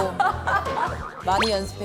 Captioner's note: laughing